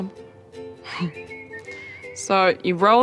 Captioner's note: chuckles